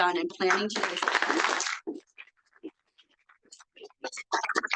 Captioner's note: audience applauding